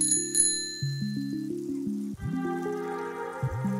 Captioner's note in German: Klingel